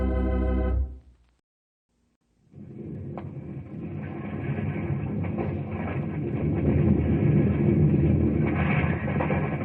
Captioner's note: thunder